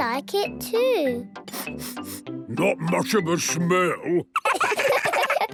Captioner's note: sniffing; sniffs